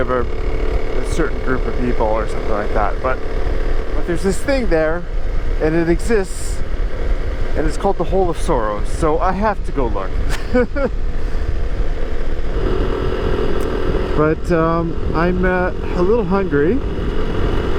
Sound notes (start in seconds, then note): 10.2 laughs